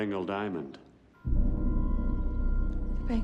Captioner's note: dramatic rumbling